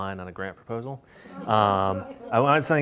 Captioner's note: laughter